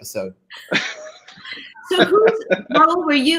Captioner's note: group laughing